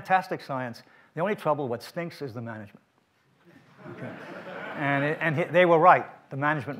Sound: audience laughs

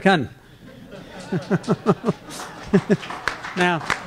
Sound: laughter

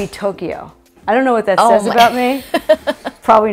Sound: laughs

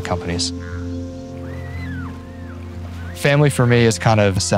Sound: children playing

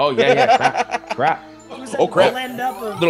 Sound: laugh

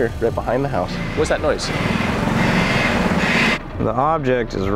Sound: bird screeching

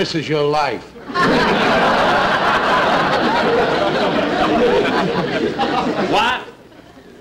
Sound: audience Laughing

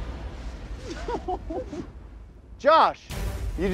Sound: laughing

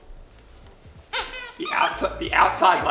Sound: squeaks

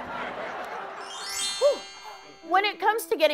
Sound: laughter; chimes

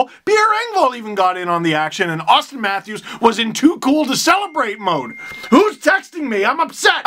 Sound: phone dings

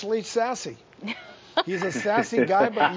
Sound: woman laughing

